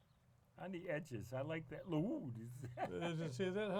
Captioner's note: laughs